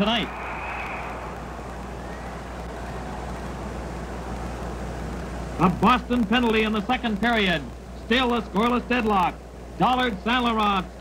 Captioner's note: whistle blows